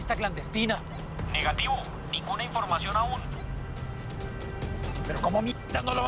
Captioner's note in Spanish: Voz en la radio